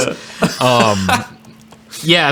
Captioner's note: laughing